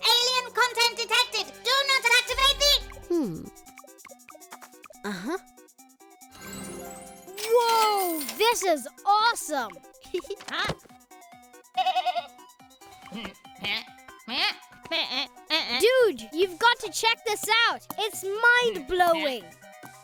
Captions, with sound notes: - Alien content detected! Do not activate the-- - Hmm... Uh-huh... Whoa! This is awesome! - Huh? (bleating) (bleating) - Dude! You've got to check this out! It's mind-blowing!